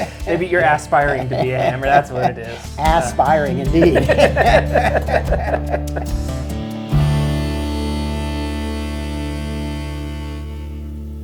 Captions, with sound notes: Maybe you're aspiring to be a Hammer, that’s what it is. Ass-spiring, indeed. [laughs]